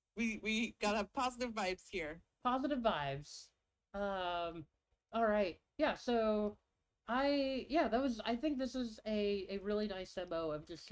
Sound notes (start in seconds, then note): none